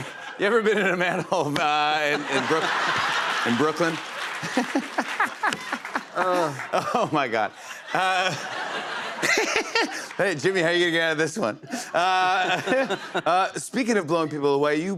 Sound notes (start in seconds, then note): 4.4 laughter and applause; 8.3 laughter